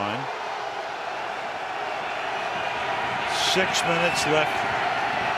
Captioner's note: cheering